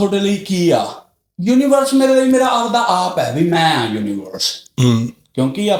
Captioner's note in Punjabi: ਗਲਾ ਸਾਫ਼ ਕਰਨ ਦੀ ਅਵਾਜ਼